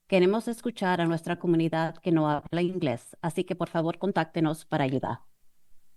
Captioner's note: foreign language